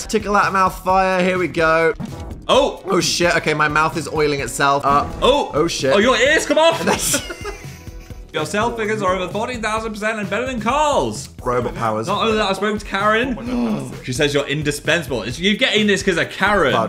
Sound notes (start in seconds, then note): 6.4 laughing; 13.4 gasps